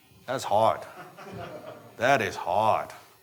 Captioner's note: audience members laughing